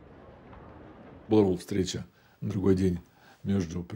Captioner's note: speaking Russian